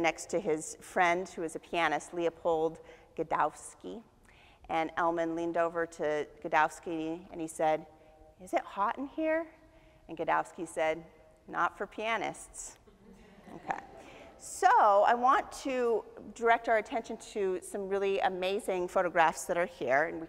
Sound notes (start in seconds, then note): 12.9 audience chuckles